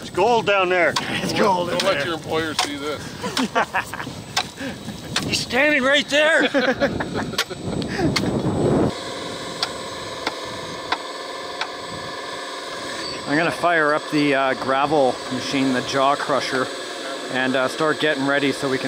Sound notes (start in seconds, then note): 4.7 laughing; 6.2 chucking; 9.2 roaring bulldozer engine